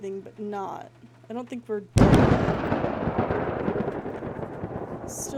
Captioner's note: thunder